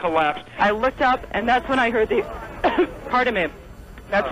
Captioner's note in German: hust